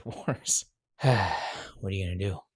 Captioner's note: sighs